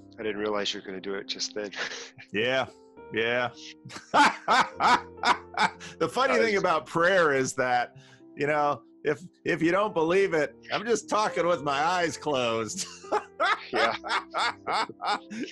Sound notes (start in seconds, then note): 3.9 laughter